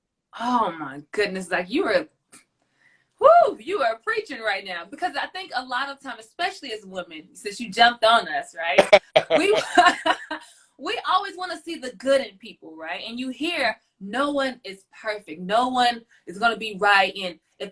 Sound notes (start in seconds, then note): 8.7 laughs